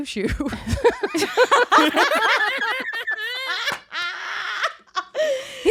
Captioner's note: all laughing